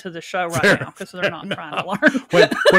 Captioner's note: laughs